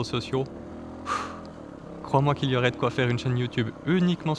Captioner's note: sigh